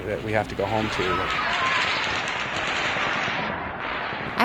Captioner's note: gun Shots